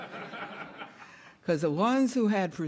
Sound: audience laughing

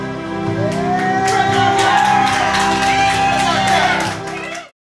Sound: cheers

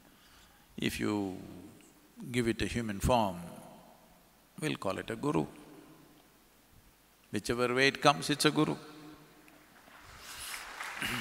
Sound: applause

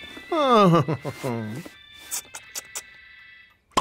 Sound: chuckles

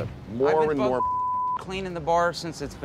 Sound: beep

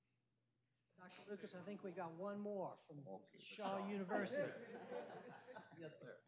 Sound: laughter

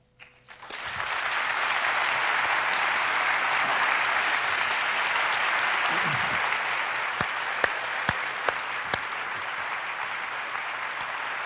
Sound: applause

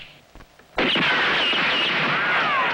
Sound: gunfire

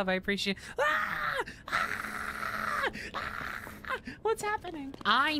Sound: quiet Screaming

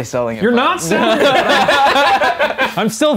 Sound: laughing

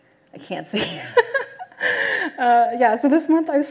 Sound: laughs

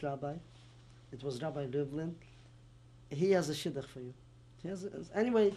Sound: non-english

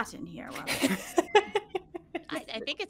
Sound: laughter

